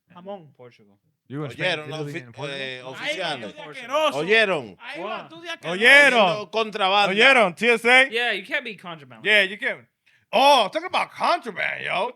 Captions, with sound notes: I'm on Portugal. (Speaking In Foreign Language) Yeah, you can't be contraband. Yeah, you can. Oh, talk about contraband, yo.